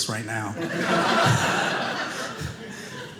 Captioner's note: audience laughing